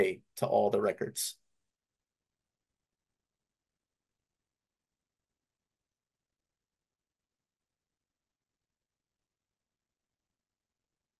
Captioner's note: silence